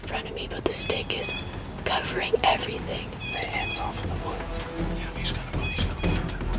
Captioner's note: whispering